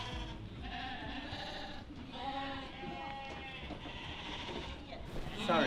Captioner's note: sheep bleating